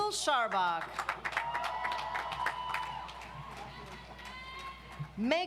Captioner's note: audience applauds